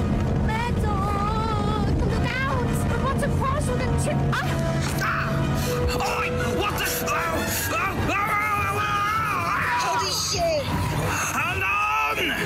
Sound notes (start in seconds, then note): 7.9 scared gasp